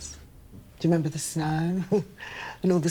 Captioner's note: Evelyn chuckling